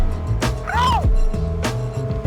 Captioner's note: yelping